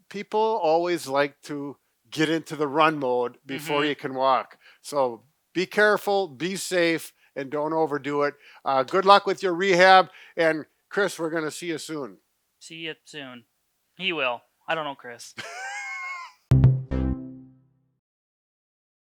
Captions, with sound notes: people always like to get into the run mode before you can walk. So be careful, be safe, and don't overdo it. Good luck with your rehab. And Chris, we're gonna see you soon. - See you soon. He will, I don't know Chris. (laughing) (upbeat tone)